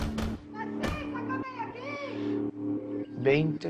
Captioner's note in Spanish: Golpes